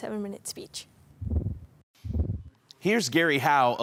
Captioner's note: whoosh